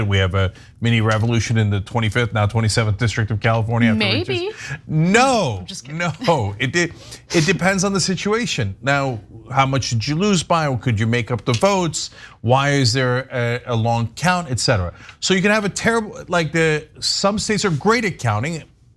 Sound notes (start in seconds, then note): 5.9 laugh